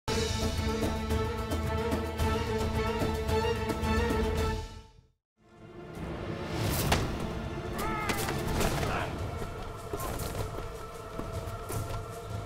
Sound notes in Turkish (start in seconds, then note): 7.7 Dövüşme sesleri